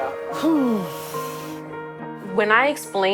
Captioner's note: exhaling